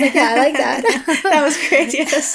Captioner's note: chuckles